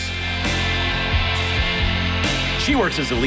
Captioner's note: audience applauding